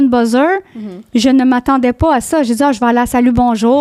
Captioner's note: in french